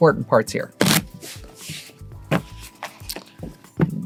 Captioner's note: cards shuffling